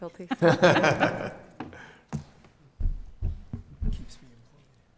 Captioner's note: giggling